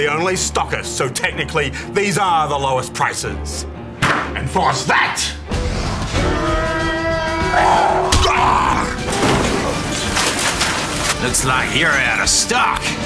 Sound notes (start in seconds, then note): 6.2 shrieks; 6.2 roars